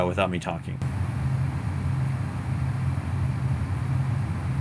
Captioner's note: machine humming